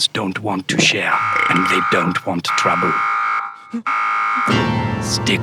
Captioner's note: warning Klaxxon blares